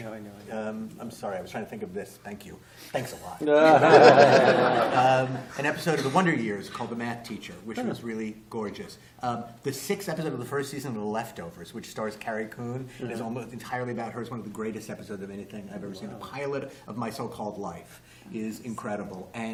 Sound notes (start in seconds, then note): 3.5 laughter